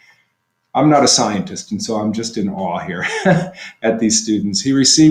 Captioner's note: laughter